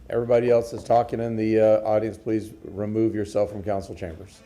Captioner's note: sounding gavel